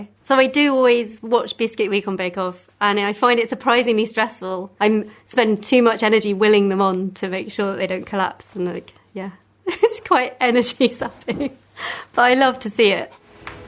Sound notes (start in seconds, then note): 9.6 laughs